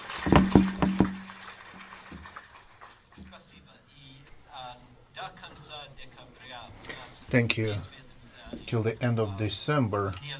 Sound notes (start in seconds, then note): 0.0 crowd clapping; 4.8 speaking in foreign language